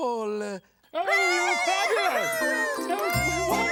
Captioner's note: audience cheers